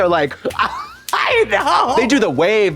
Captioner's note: Katya applauds